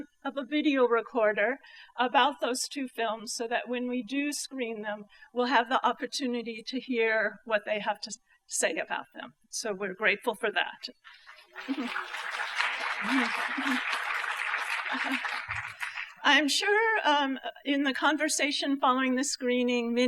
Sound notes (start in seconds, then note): 11.1 applause